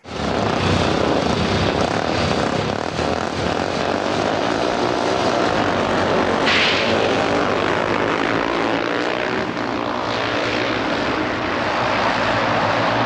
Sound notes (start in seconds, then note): 0.1 bikes revving; 6.3 bikes accelerating